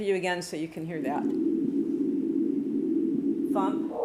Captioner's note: whooshing